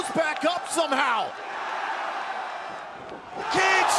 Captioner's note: crowd cheering